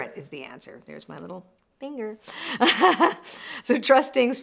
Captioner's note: laughs